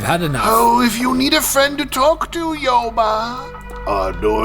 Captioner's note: condescending